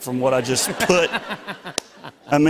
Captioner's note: laughter